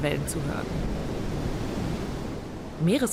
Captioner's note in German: Meeresrauschen